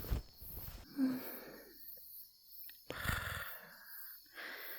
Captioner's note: relaxing against you with a small, content sigh and a slow exhale